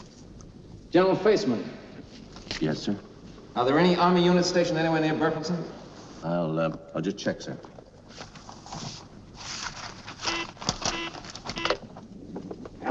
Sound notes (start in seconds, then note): 10.7 phone beeps